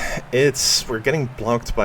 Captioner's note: big Sigh